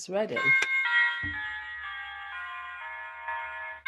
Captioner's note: church bells chiming